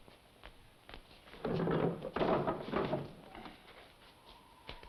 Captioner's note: box rattles; eerie whistling music